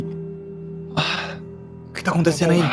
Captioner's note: sighs